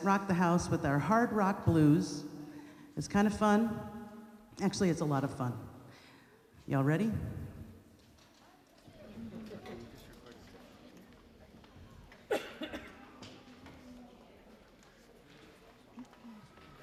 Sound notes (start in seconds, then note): 9.1 people laughing; 10.3 people chattering